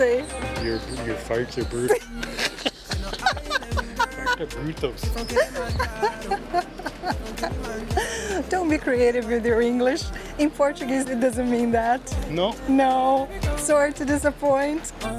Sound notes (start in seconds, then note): 1.9 laughs; 5.5 laughs